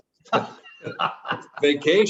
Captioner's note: laughs